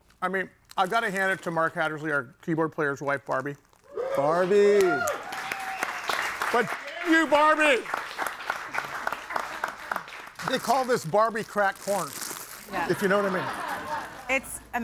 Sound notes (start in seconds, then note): 3.9 audience cheering; 8.3 audience applauding; 12.7 audience laughing